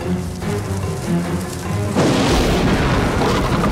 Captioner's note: Growling